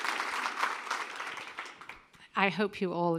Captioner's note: applause